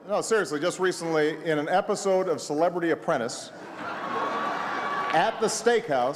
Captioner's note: laughter